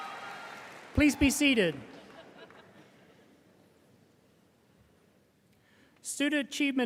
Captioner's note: audience member chuckling